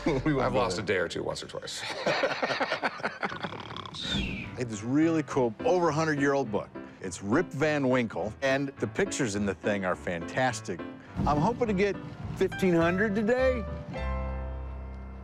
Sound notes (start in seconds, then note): 1.8 laughter; 3.4 fake snoring